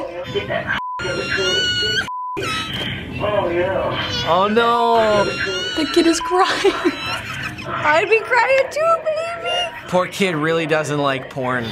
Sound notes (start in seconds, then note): 0.2 woman on intercom; 2.4 child wails; 3.1 woman on intercom; 4.2 child wails; 6.9 laughs